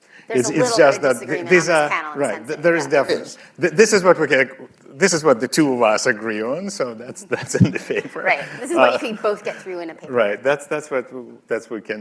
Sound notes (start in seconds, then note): 7.2 laughter